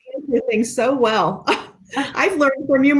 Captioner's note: laughs